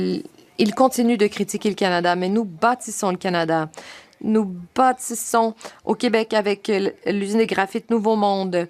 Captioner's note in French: voix de l'interprète